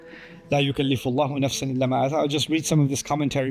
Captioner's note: Arabic